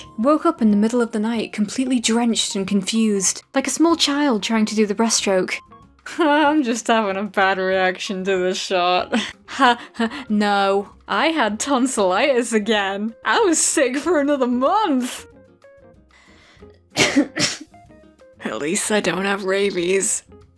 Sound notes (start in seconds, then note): 16.9 cough